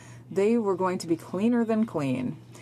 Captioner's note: speaking French